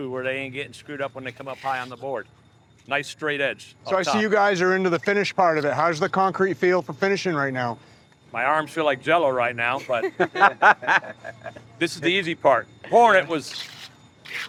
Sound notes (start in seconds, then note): 9.8 group laughs